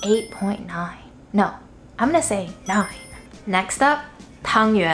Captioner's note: chimes tinkling; chimes tinkling